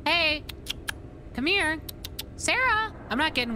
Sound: clicking Tongue

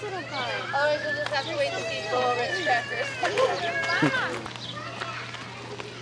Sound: people chattering indistinctly

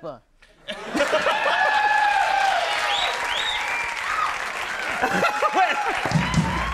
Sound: audience cheering, applauding, and whistling

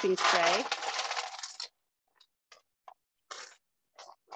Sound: bowl emptying

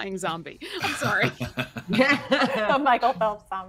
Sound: all laughing

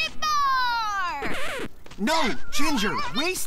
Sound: record scratches

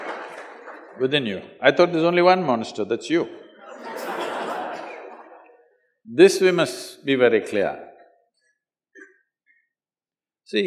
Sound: laughter; laughter

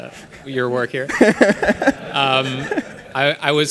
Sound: laughing

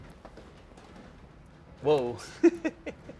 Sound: laughs

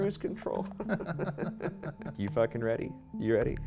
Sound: both chuckle

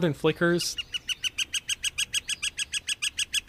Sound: northern Flicker call

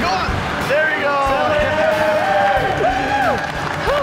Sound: cheering

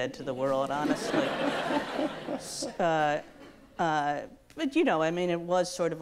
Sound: audience laughs

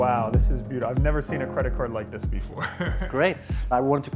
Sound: laughs

